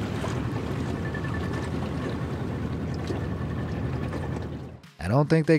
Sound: water lapping; engine chugging

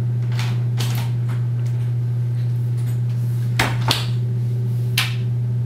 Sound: door opens and closes; light switch

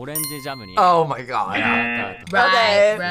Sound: bell dings; error buzzer

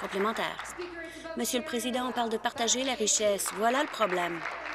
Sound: applause

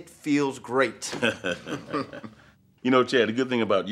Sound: Gates laughs

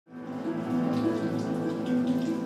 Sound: rain sounds and music plays

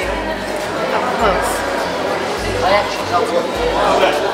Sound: crowd chatters

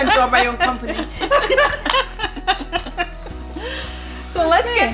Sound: laughing

